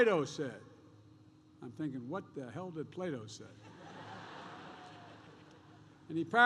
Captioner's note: laughter